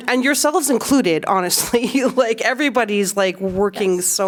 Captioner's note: laughter